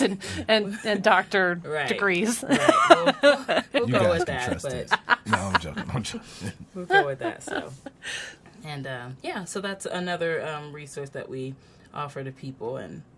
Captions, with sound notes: and doctor degrees. (laughs) - We'll go with that so and yeah, so that's another resource that we offer to people